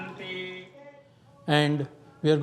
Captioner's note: chanting